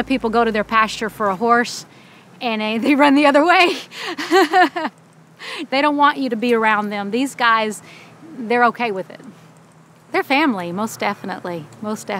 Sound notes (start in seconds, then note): 3.6 laughs